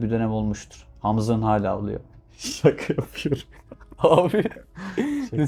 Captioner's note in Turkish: kahkaha